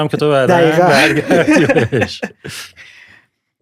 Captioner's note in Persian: خنده